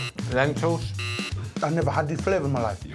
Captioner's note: buzzer